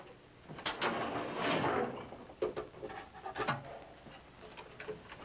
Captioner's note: machine clunks